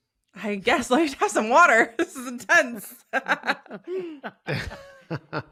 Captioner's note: chuckles